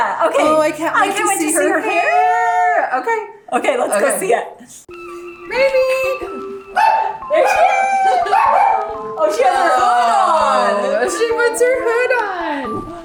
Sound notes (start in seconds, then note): 4.7 cheering; 6.4 dogs barking